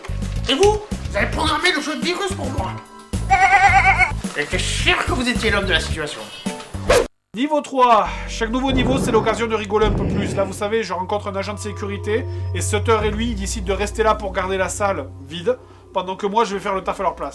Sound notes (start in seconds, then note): 3.2 goat screaming